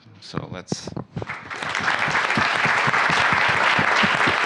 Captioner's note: applause